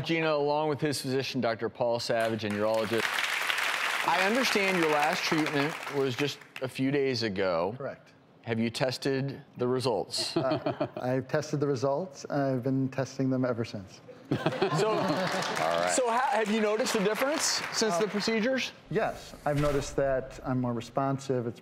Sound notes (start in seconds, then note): 2.2 audience clapping; 10.2 laughing; 14.3 laughs